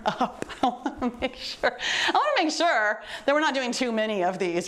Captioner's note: laughs